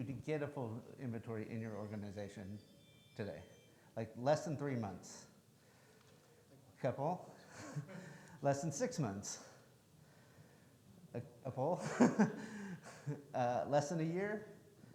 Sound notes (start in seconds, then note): 7.9 audience laughing; 11.8 laughs